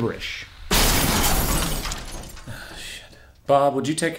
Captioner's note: glass Breaking